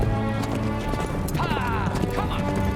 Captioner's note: horse galloping